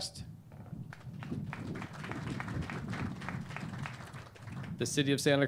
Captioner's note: clapping